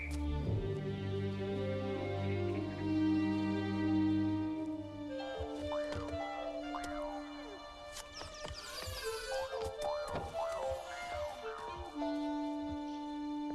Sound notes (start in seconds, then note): 0.3 soft suspenseful music; 5.2 low furtive music; 8.8 window squeaking